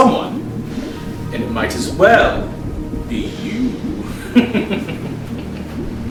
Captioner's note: laughing